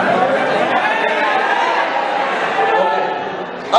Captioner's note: crowd says in low tone